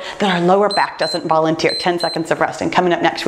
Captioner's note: timer beeps